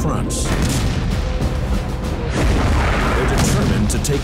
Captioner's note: explosion booming